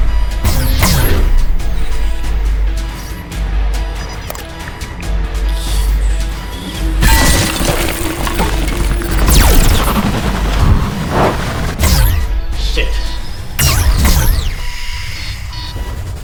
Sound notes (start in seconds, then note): 0.5 gun firing; 2.6 intense music; 6.8 wood cracking; 7.4 gun firing; 13.6 gun firing